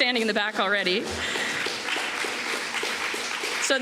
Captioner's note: applause